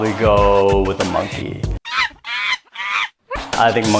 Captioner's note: monkey sound